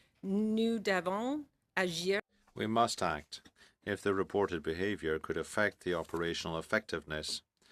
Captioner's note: speaking french